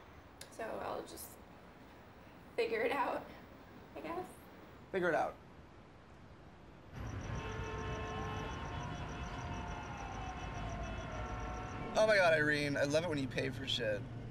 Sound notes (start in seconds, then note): 6.8 traffic sounds